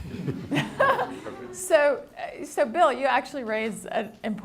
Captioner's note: laughs